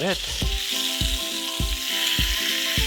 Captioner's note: pan sizzling; upbeat music